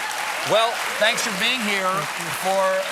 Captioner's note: applause